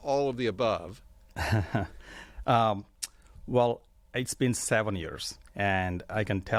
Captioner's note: chuckling